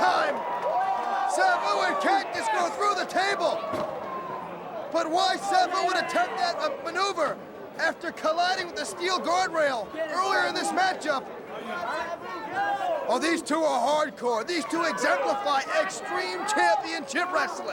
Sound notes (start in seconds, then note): 0.0 crowd cheering; 10.3 crowd chatter